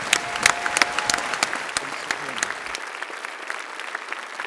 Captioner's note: applause